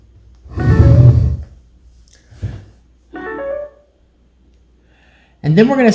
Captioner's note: tablet makes noise